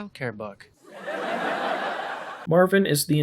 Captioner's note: laugh track